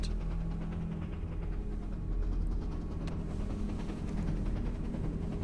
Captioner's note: train tracks rattling